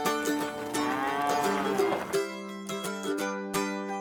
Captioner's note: cows mooing